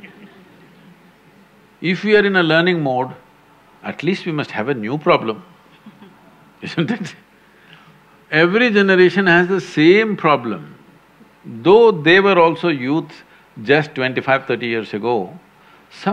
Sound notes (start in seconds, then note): 5.7 laugh